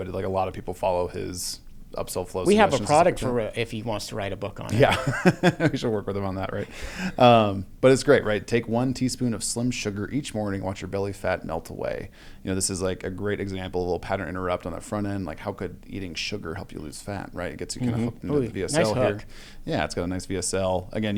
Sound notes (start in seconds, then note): 6.6 laughs